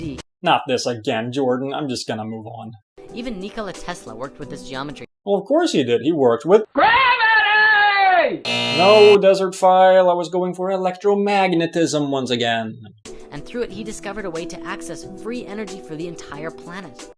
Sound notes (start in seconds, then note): 8.4 buzz